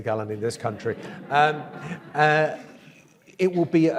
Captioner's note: audience laughs